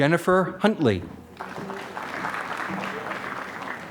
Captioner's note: applause